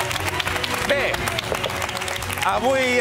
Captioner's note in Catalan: aplaudiments